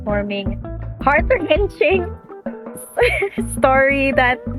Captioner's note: laughs